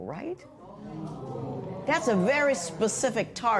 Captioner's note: spectators murmur